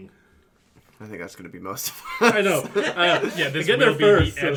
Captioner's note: laughter; laughs